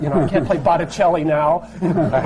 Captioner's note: laughter